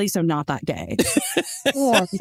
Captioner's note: laughs